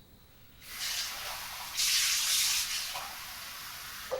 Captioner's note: water gushing